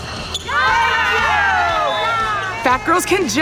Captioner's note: cheers; laughs